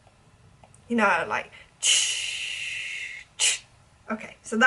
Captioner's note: imitates cymbals